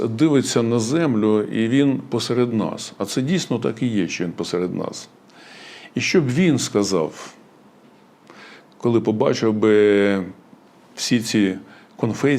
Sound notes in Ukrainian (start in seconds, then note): 8.3 сопіння